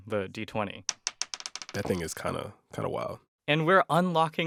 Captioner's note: soundbite of dice rolling